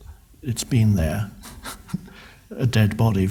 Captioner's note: laughs